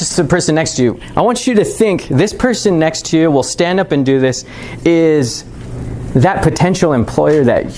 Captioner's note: none